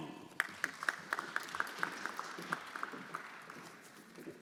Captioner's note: everyone applauding